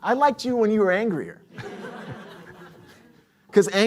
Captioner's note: laughter